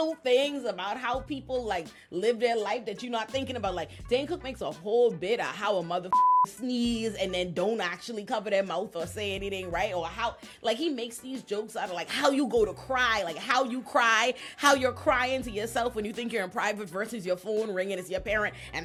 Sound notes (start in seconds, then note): 6.1 beep